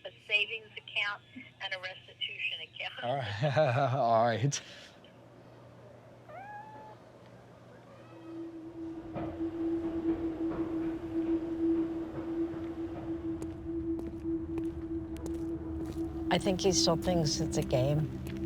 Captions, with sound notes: a savings account, and a restitution account. - All right. [cat meowing] [soft thoughtful music] - I think he still thinks it's a game.